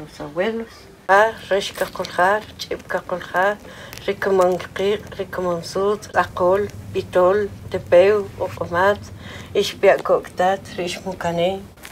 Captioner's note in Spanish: hablando en idioma K'iche'